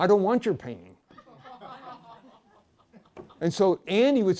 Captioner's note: laughter